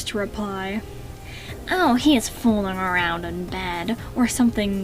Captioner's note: in a nasally Remus voice